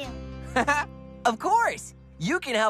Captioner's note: laughs